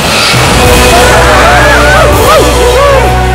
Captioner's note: Scream and yelp